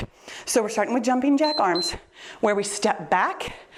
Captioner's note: timer beeps